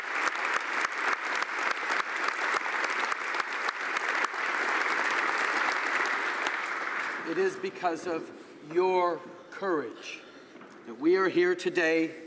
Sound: applause

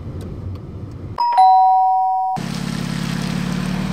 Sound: door bell

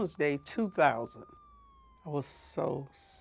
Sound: siren wailing

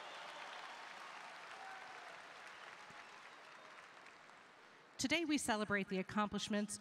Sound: applause

